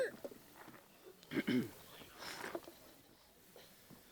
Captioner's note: clears throat